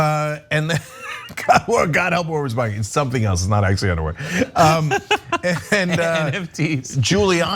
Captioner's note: laugh